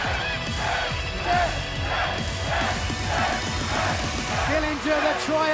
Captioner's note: cheers and applause; fans chanting